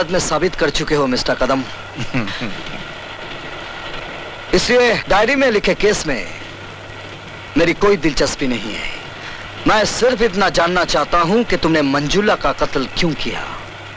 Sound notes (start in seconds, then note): 1.9 laughs